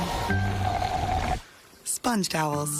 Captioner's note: draining sound